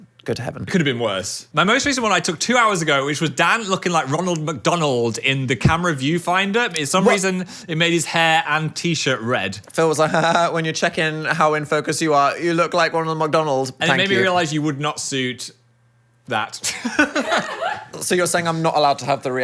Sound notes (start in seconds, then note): 16.6 people laughing